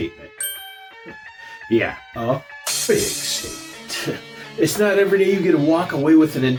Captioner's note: ting!; crash